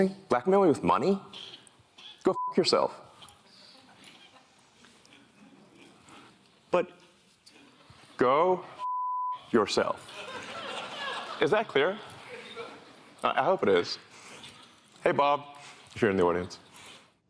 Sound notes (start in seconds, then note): 10.0 laughter